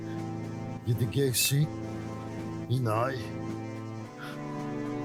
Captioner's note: speaking Cherokee language